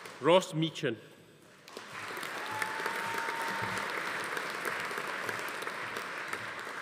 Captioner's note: audience applauding; attendee cheering